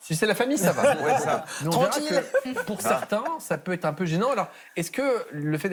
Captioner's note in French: rires